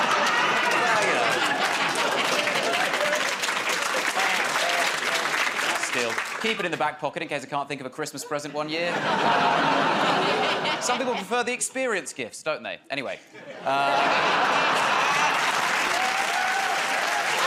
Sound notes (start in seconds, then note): 0.0 laughter; 4.0 applause; 13.8 cheers and applause